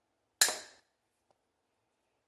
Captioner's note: pop